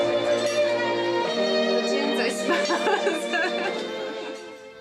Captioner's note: gentle violin music; laughs